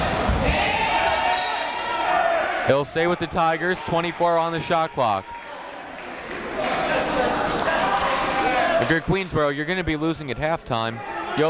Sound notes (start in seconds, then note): 1.3 whistle; 5.7 chatter